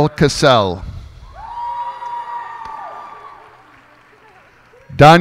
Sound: cheers and applause

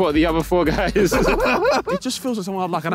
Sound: all laughing

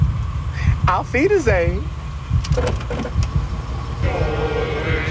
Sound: speaking German; jaunty music

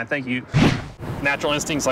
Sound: whoosh

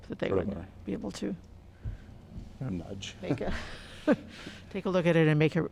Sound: laughter

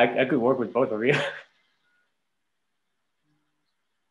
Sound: laugh

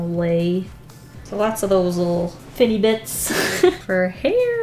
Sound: laughs

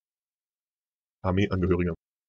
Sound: fast Pronunciation

